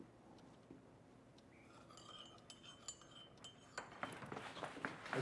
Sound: teaspoon clatters

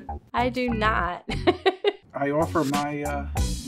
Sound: laughs

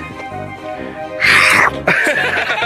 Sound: laughs; growls

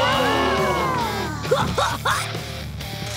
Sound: grunting

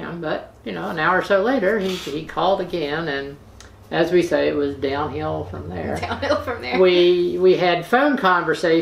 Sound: laughter

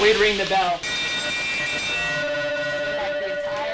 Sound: bell clanging

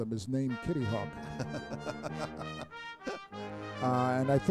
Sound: laughs

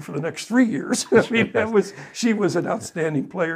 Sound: laughs

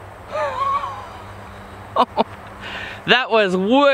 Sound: laughs

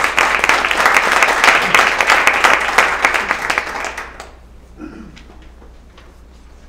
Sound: applause

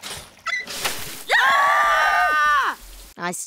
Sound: screaming

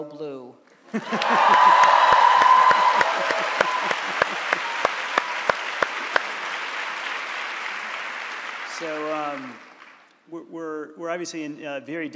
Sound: cheers and Applause

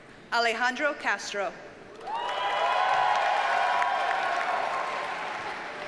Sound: audience cheers and applauds

